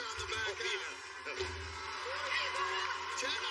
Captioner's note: cheers and applause